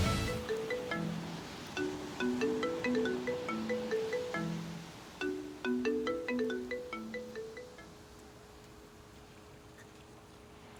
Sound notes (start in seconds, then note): 1.7 phone rings; 8.0 wave noises